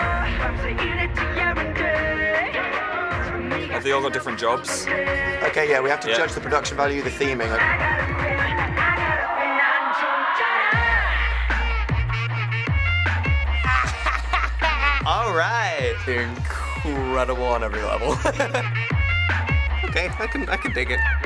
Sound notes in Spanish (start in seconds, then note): 0.4 Cantando en Coreano; 9.7 Cantando en Coreano; 13.6 Risas; 17.9 Risas